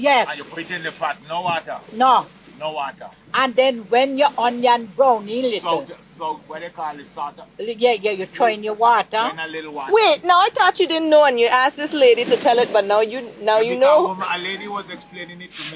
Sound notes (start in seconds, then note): none